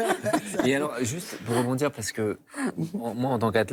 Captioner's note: laughter